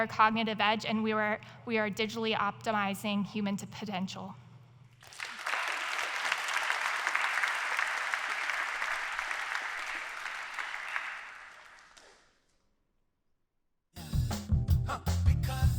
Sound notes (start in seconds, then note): 10.9 applause